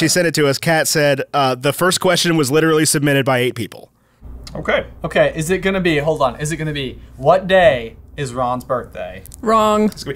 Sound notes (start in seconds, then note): none